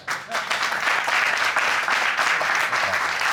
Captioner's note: audience applauding